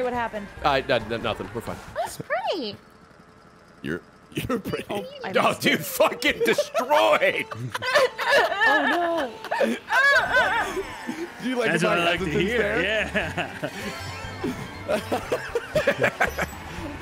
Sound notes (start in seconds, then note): 11.2 everyone laughing